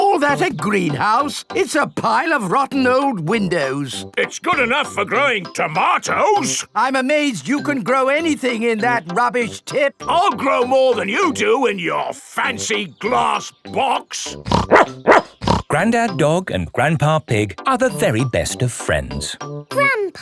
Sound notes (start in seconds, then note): 14.4 snorts; 14.5 barks